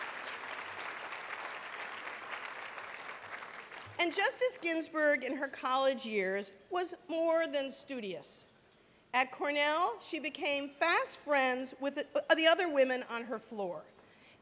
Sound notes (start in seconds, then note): 2.1 applause